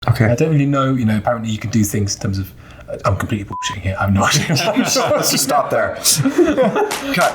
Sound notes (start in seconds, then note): 3.5 beep; 4.2 everyone laughing